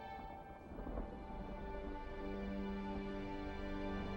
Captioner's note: thunder rumbling